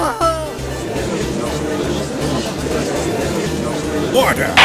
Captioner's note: gallery chattering